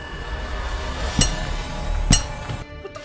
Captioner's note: wrench banging